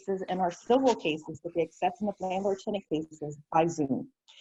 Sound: faintly speaking

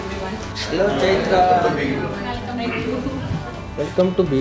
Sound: excited

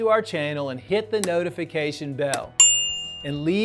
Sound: bell chimes

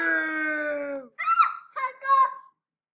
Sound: scream

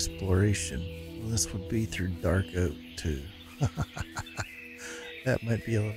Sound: laughs

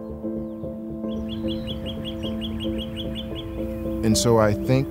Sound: birdsong

